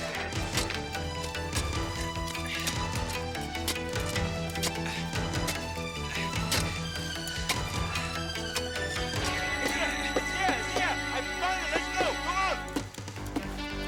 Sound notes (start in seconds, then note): 8.4 shovel thudding